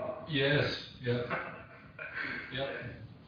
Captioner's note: audio distorts; laughter